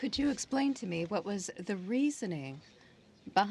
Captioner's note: speaking in french